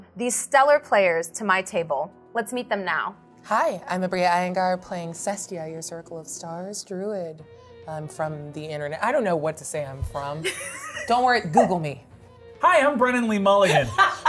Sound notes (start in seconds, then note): 10.4 chuckles; 13.8 laughs